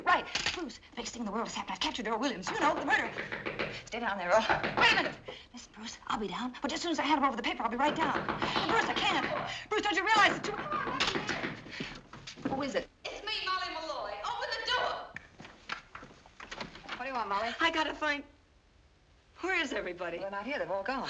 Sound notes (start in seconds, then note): 2.2 knocking; 7.6 pounding on door